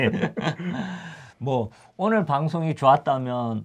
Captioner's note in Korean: 웃음